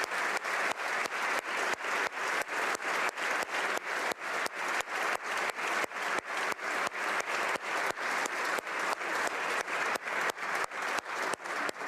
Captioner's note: applause